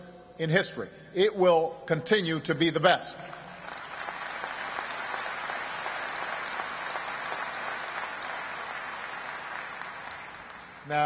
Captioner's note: applause